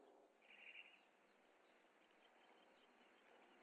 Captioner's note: birds chirping